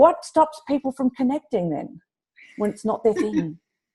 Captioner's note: laughs